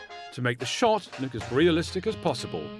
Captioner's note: none